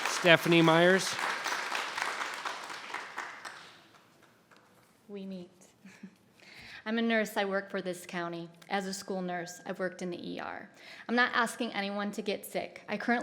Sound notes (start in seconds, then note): 0.0 audience applauds; 6.2 laughs